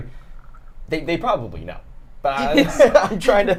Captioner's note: laughs